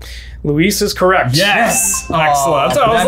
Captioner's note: bell dings